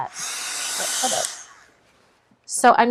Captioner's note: tool whirring